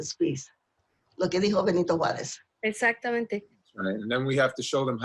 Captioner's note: speaking spanish